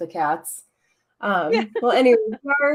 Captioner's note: laughs